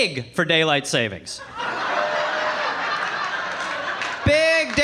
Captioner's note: audience laughing